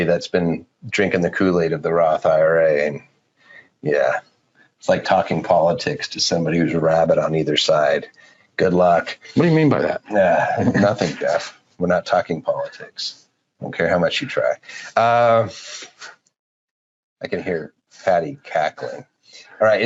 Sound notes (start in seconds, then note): 14.6 laughing